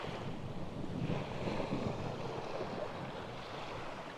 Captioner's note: wind whooshing